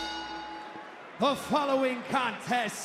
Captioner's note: bell rings